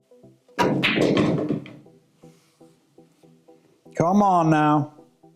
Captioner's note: pool balls clacking and thudding